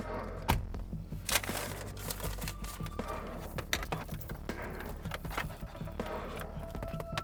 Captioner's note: door shutting; stirring music continues